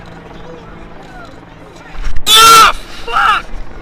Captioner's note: crowd shouting